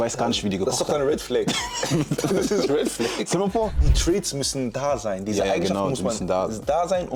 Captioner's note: gelächter